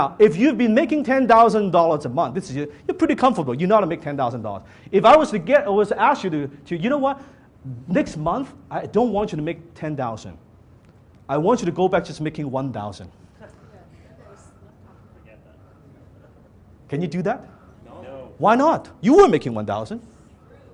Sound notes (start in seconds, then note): 13.8 audience Members mumble; 18.1 audience Members in unison